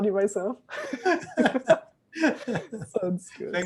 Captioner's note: laughing